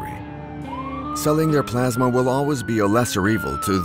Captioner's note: police siren wailing